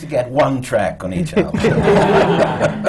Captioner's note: laughter